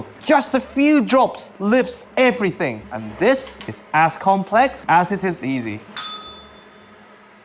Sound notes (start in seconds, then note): 5.9 bell rings